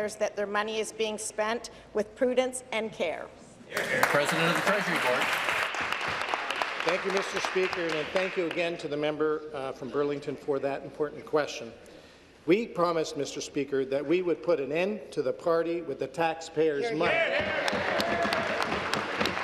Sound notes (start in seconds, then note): 6.9 applause